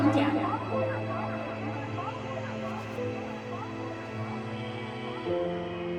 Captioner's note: echoes